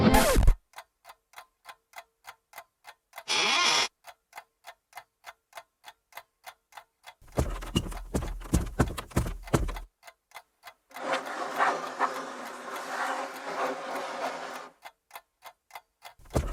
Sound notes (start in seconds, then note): 0.0 record scratching; 0.6 clock ticking; 3.4 clock continues ticking; 3.4 sofa creaking; 7.2 footsteps plodding; 11.0 hands rasping